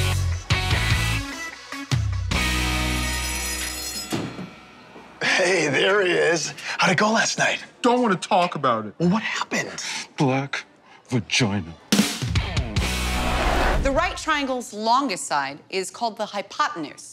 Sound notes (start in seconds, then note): 0.2 upbeat music; 3.2 school bell ringing; 12.2 upbeat music